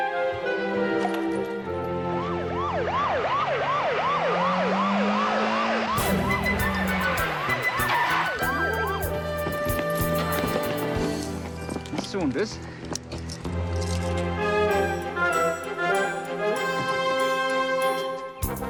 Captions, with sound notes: (siren blaring) (tires screeching) Ms. Saunders. (dramatic music continues)